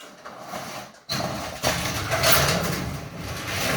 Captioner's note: sheet metal rattling